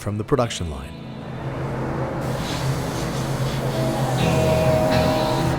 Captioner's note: airbrush spraying